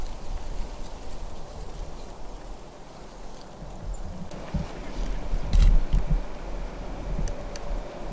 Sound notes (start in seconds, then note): 1.5 leaves cracking and footsteps